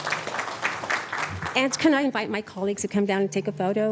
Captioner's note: applause